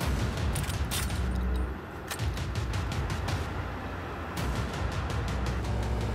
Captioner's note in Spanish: ruido de los vehículos